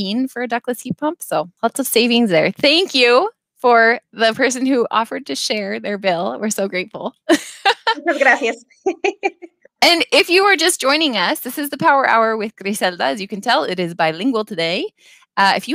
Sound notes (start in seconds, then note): 8.3 speaking in Spanish